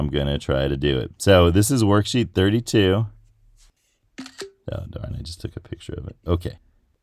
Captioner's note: ctrl-shift-4 camera shutter sound